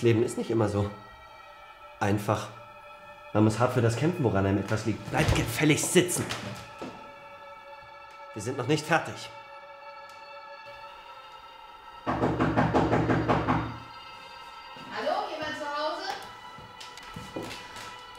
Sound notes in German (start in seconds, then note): 12.0 Knocking